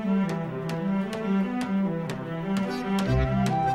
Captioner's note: thumping